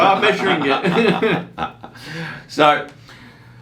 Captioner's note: laughing